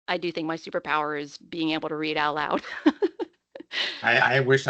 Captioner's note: laughing